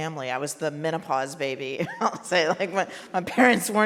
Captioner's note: laughs